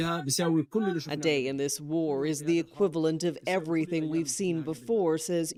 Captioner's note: speaking alternate language